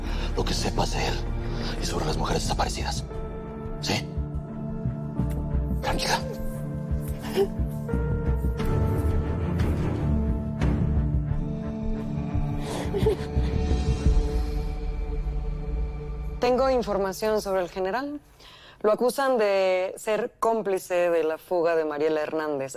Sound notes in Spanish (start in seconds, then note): 6.8 Sollozos